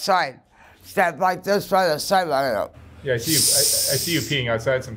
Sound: mouth whizzes

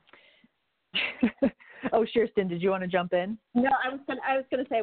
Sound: chuckling

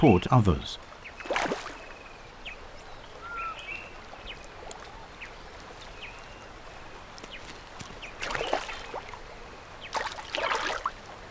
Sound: splashing

